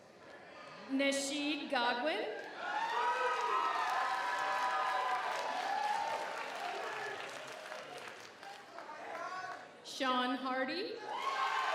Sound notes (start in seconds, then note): 2.4 audience cheers; 2.5 audience applauds